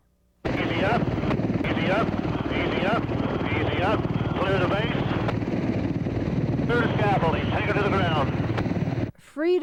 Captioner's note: over staticky radio